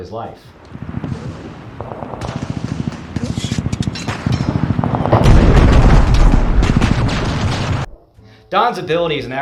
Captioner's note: war sounds